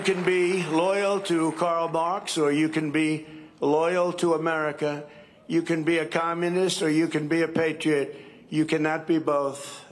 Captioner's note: cheering and applause